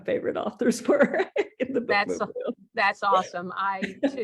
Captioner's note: laugh